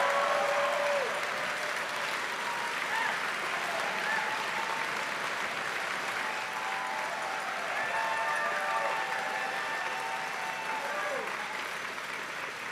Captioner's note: cheering and Applause